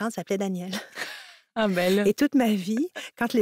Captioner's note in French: rires